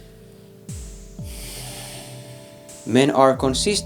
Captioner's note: sighs